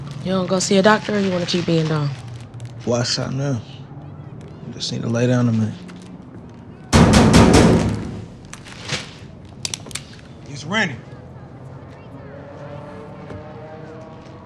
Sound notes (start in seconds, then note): 6.9 knocking; 9.6 gun cocking